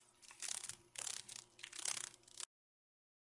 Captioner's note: sounds of a dragon fly